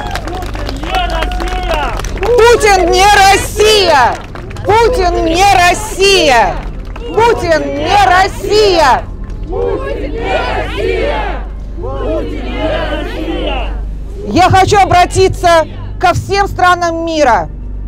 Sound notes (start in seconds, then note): 1.7 chanting